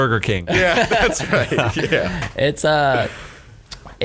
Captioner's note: laughter